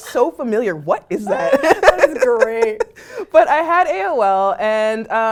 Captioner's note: laugh